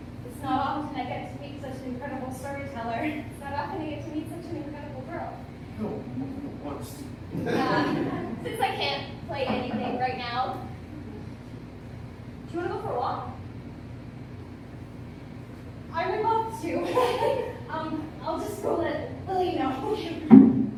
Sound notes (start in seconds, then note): 7.3 laughter; 17.2 laughs nervously